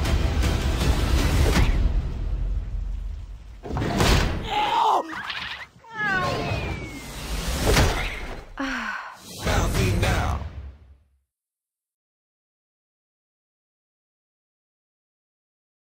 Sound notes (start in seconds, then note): 0.0 dramatic music; 5.1 meow; 8.5 sighs